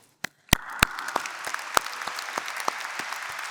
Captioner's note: applause